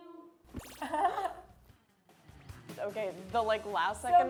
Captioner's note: zapping; laughs